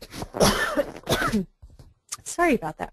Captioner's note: cough